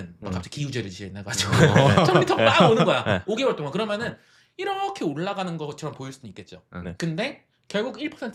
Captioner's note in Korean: 웃음